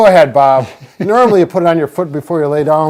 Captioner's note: chuckling